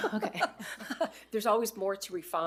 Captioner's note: laughing; laughs